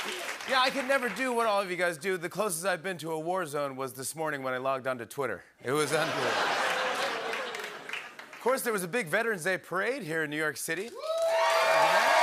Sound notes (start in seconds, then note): 5.8 laughter, ohhs, and applause; 10.9 cheering and applause